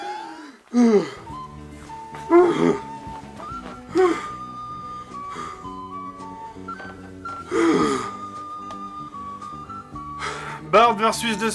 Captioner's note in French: Reprise de respiration